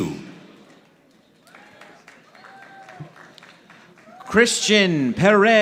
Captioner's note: audience applauding